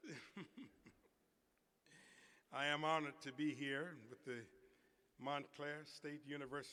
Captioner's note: laughter